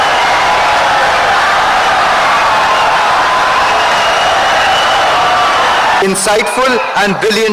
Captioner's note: wild applause and cheering for 17 seconds